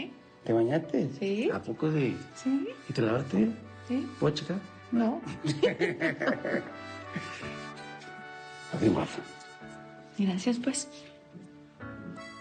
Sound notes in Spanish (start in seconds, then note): 5.3 Risas